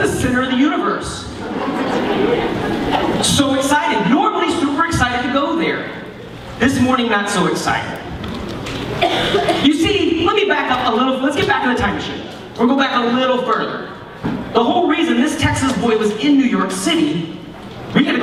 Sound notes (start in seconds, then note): 1.4 laughter